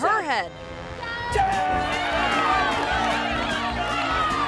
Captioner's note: crowd cheering